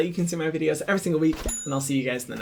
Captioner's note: bell dings